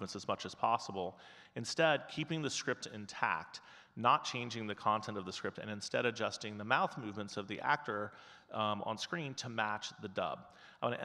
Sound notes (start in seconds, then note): none